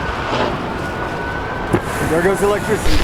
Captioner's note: wind blowing